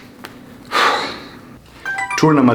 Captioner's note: exhales sharply